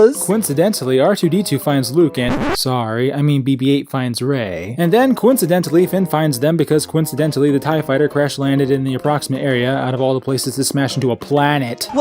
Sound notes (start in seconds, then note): 2.2 record scratch